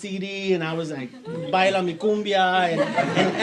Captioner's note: speaks in foreign language